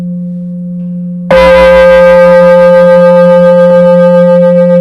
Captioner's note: bell